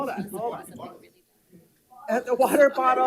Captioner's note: board Members talking and laughing off microphone